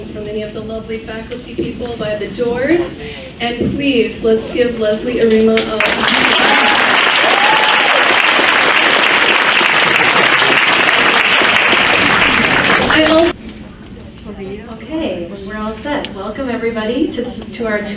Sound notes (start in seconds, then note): 5.7 crowd applauds; 6.2 cheers and applauds